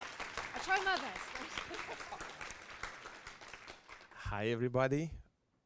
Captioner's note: applause; laughter